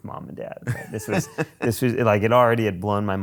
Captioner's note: laughs